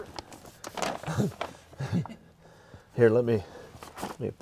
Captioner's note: chuckles